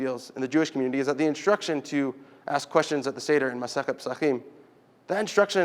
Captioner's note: Hebrew